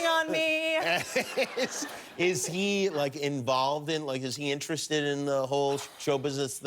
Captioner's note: laughter